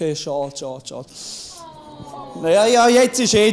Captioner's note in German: Publikum seufzt